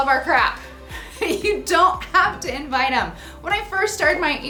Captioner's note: laughs